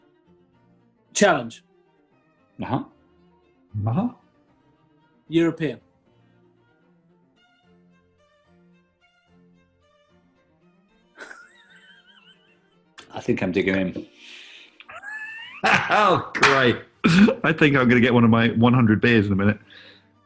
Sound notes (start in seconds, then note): 11.2 sniggering; 14.5 laughing; 16.2 claps